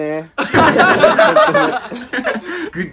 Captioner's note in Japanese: 爆笑